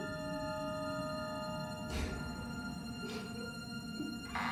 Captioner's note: crying